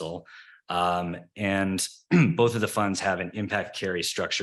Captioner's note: clears throat